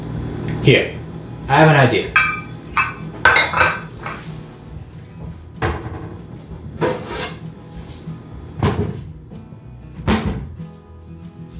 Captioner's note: metal clanging and doors opening